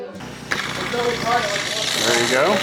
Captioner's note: power tool rumbling